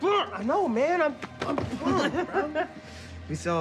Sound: laughing

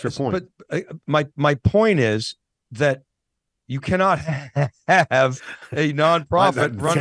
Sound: laughs

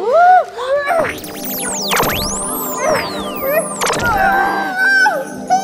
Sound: magic sounds

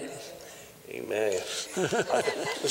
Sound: laughter

